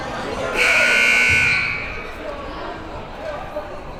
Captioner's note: buzzer rings